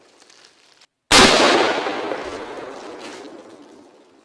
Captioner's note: gun Firing